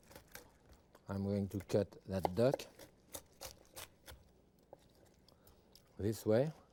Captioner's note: knife chopping; bones crunching